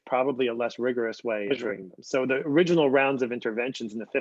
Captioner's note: distorted sound